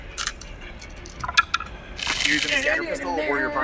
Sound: dice rattling

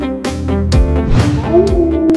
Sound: coyote howl

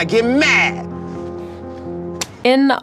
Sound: clap

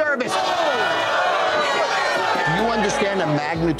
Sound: customers clamoring

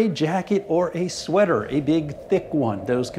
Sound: wind blowing

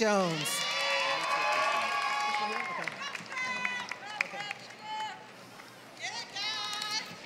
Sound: applause

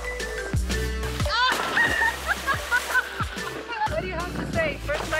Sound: laughs

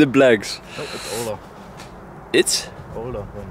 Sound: laughs; group member murmurs; group member murmurs

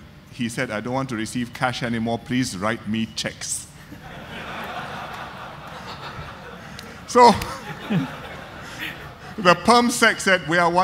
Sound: audience laughter

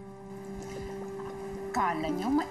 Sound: potion boiling

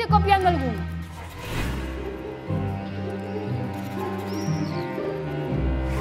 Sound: whimsical music; sound: fluttering

